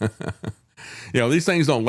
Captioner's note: laughing